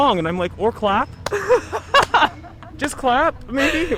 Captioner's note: hands clapping